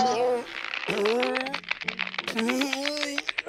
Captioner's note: reins creaking